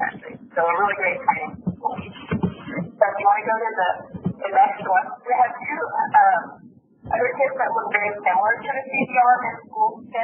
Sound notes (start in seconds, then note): 1.7 mic being moved